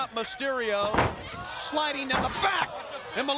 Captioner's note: Rey Jr thuds